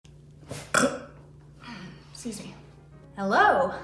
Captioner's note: burp